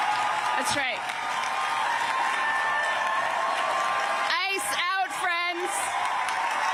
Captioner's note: cheers and applause